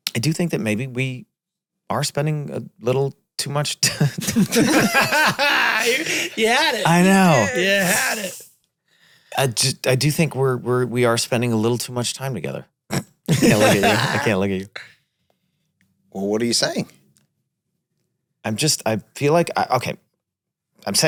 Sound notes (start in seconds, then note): 4.1 all laugh; 13.3 Glenn chuckles